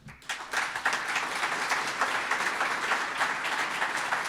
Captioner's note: audience applauds